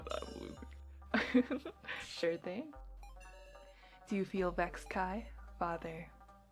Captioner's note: laughs